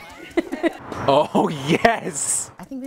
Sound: girls laugh; laughs

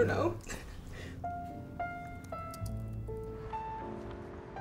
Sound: laughs

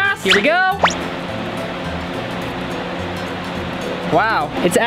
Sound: fan blowing

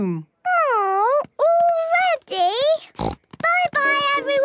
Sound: snort

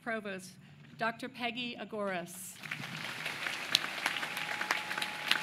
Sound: applause

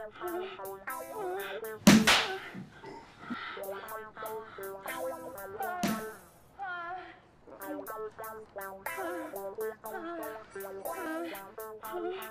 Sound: the sounds of grown men simulating sex with pumpkins

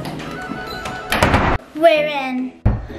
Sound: door slams

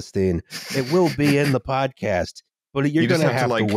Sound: someone snickers

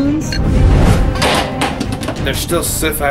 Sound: force disturbance

